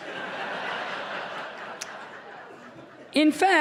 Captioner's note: audience chuckles